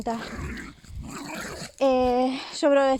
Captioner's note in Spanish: perro gruñendo